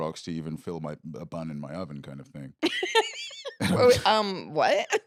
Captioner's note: laughs